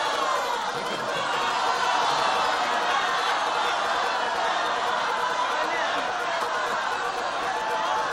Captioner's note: shouting